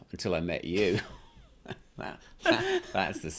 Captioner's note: laughing